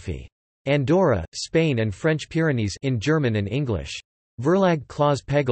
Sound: in German and English

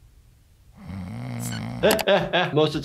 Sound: snoring; laughs

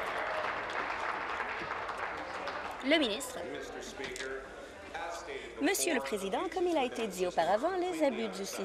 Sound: applause

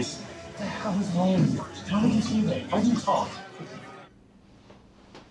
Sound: indistinct conversation

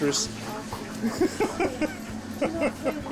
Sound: laughing

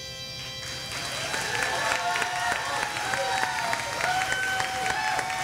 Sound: audience applauding

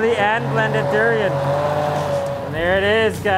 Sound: blender loudly whirs

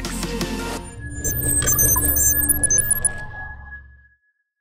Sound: logo beeping

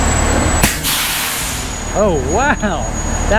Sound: truck breaks letting out

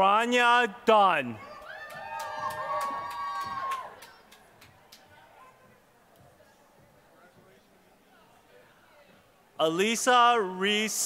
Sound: applause

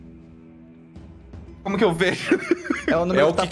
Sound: laughing

